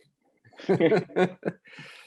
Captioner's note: laughter